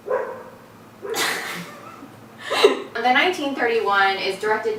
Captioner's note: dog barks again